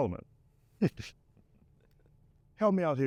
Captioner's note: Daniel chuckles